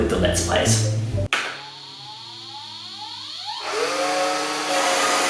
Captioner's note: machine boot up